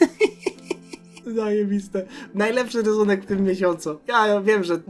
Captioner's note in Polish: śmiech